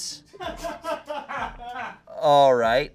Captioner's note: audience laughing